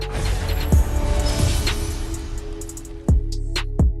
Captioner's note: words whooshing; slow techno music